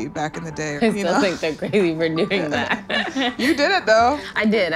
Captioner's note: laughs